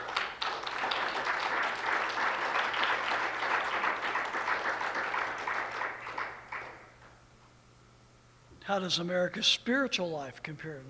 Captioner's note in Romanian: Aplauze